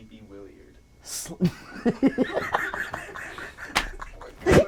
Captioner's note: laughing